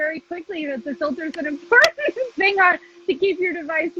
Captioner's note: laughs